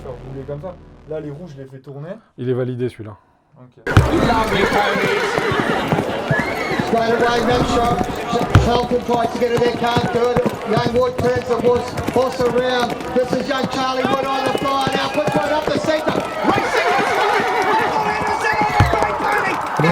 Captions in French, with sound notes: Les roues je l'ai fait tourner Il est validé celui là. ( Bruit de chevaux + bruit match de polo )